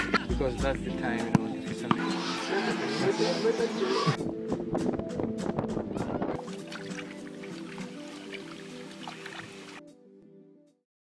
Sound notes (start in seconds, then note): 4.0 wind blowing